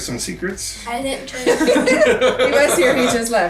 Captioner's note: laughing